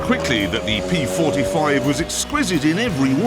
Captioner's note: crash